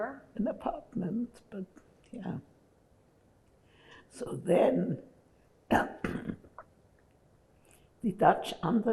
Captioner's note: clears throat